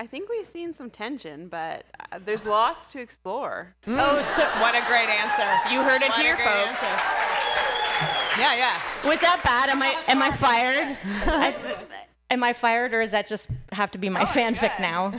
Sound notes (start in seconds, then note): 7.2 applause